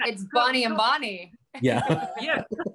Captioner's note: laughing